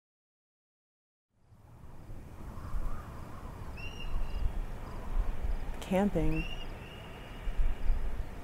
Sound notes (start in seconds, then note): 4.5 wind blowing